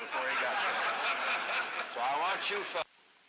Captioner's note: laughter